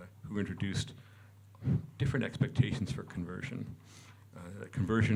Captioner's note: none